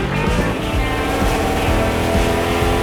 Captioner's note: engine blaring